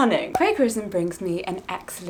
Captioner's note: air popping